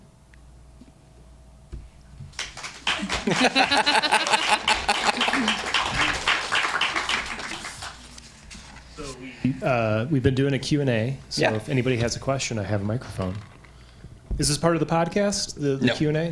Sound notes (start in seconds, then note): 2.3 audience applauding; 2.6 presenters laughing